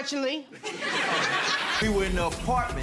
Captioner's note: audience laughing